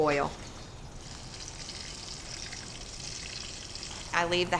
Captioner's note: sizzling and popping